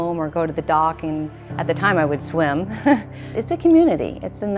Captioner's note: laughs